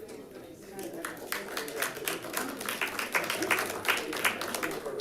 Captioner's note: applause